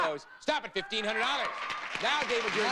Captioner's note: audience applauding